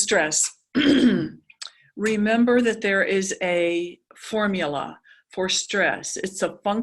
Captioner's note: cough